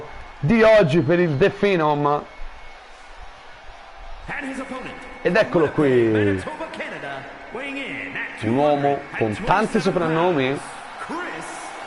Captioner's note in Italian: Applauso